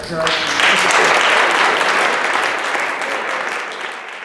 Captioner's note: applause